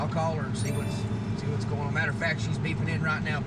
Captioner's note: phone beeps